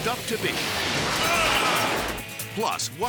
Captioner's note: shed smashing; biker grunts